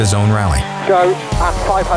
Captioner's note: engine revving